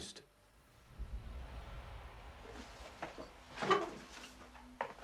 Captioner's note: loud whooshing